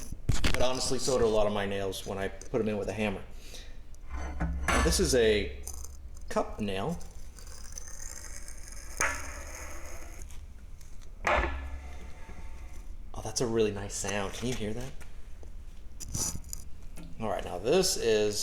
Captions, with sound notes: but honestly so did a lot of my nails when I put them in with a hammer. This is a cup nail. [sound of wood fibers compressing] Oh, that's a really nice sound. Can you hear that? All right, now this is...